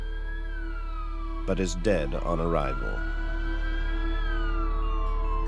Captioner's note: siren wails